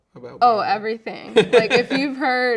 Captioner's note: laughing